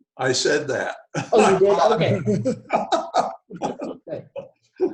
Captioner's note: chuckles